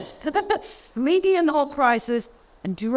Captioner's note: laughing